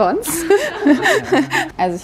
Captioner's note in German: Gelächter